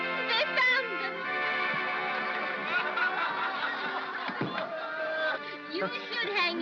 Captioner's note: soft laughter